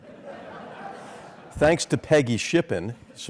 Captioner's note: laugh